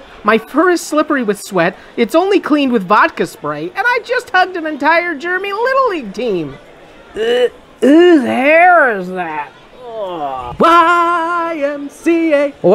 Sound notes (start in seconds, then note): 7.1 grossed out noise; 9.8 grossed out noise; 10.6 singing